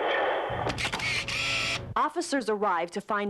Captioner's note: camera shutter clicks